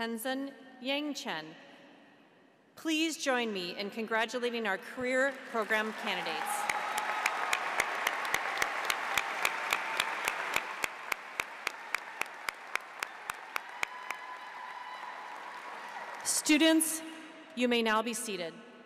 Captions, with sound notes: Tensen Yangchen. Please join me in congratulating our Career Program candidates. (audience applauds) (cheers) Students, you may now be seated.